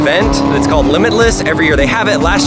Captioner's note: engine revs